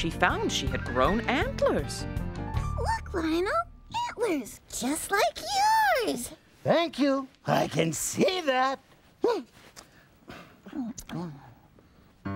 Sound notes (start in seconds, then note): 6.2 sarcastically